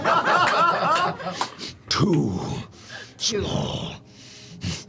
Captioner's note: laughter; sniffs